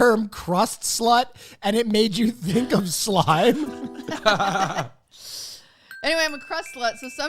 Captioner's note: laugh